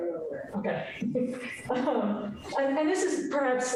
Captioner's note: chuckles